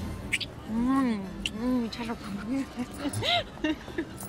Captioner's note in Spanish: Risas